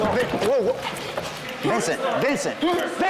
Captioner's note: scuffling